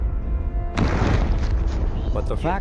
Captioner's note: meteorite crashes